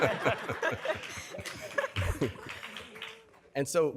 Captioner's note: laughter; scattered applause